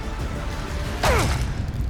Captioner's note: grunt